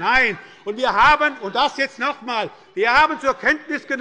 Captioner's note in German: Unruhe bei dem BÜNDNIS 90/DIE GRÜNEN